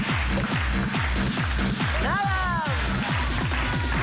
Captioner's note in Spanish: Palmadas al compás